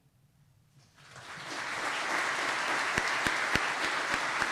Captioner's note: audience clapping